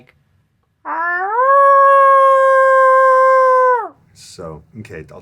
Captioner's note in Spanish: aullidos